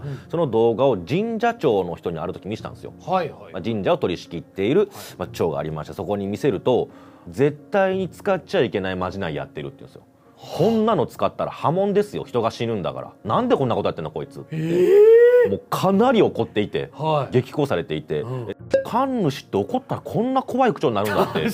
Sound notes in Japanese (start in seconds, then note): 14.7 叫び声